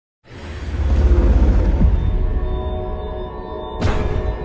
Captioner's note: metal whirring